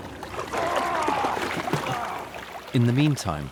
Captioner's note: men strain with effort